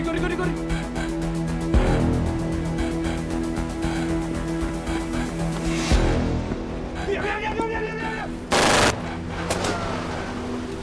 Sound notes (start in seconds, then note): 8.5 gunshots; 8.5 car leaving